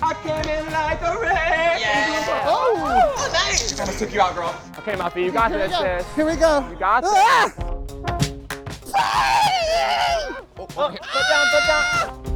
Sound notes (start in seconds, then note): 1.8 campers exclaiming; 7.4 Muffy screaming; 8.2 band music; 8.9 Muffy screaming